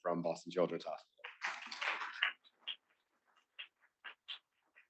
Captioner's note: students clapping